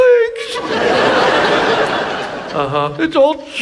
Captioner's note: audience laughs